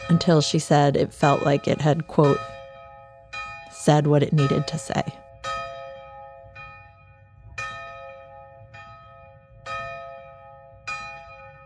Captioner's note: bell ringing